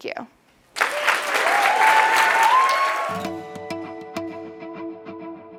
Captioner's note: applause